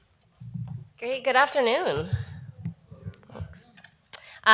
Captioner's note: audience mutters